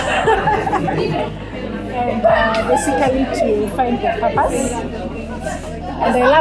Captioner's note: group laughter